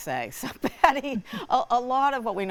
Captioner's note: all laughing